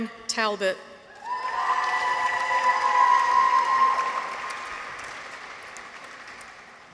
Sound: people cheer; audience applauds

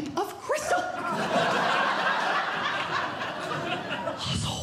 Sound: audience Laughing

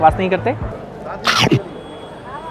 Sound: munching

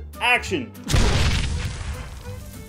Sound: cheap explosion sound

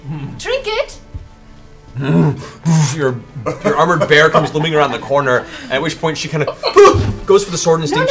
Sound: bear moans; yelps

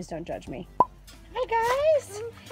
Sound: popping

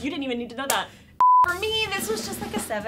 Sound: beep

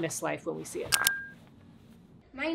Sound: clicking

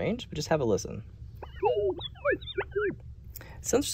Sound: distorted sound

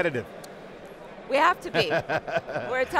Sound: laughing

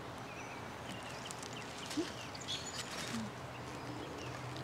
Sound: paper rustling

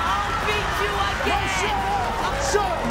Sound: crowd shouting

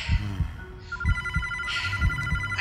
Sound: phone rings

